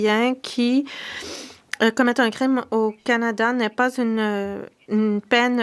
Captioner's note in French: voix de l'interprète